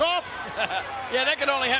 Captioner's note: laugh